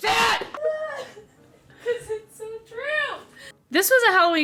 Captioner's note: laughs